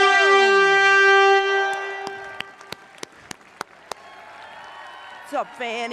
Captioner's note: horns playing; applause